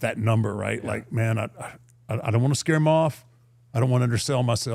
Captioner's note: sighing